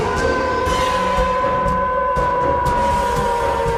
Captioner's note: Eric howls